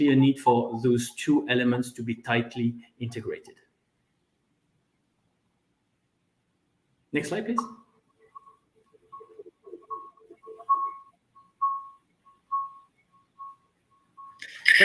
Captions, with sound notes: a need for those two elements to be tightly integrated. Next slide, please. (electronic tone echoing)